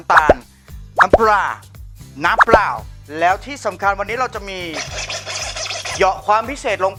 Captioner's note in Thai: เสียงสแครช